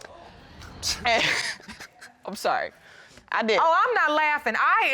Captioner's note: chuckling